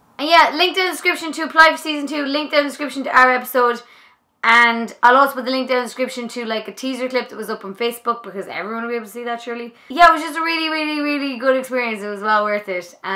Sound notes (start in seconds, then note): none